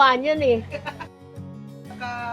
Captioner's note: laughs